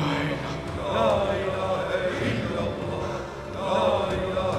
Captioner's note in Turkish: Erkek sesleri